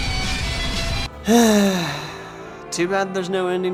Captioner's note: sigh